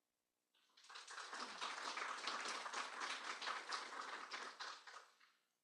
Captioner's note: applause